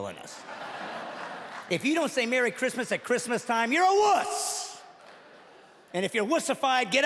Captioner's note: laughing